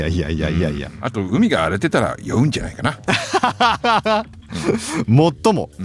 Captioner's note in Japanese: 笑い